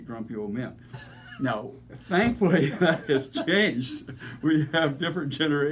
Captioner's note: laughing